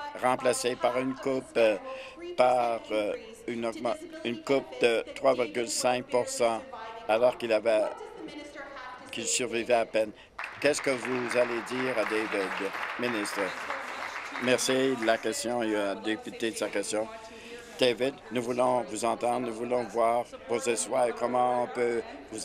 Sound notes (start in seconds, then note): 14.1 applause